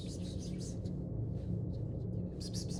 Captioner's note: whispering